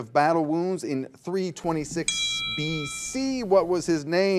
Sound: bell rings

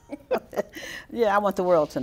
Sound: both laugh

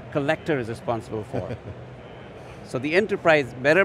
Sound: laughs

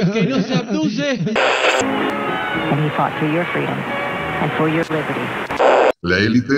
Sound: radio tuning

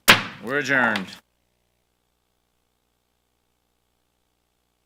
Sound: gavel bangs

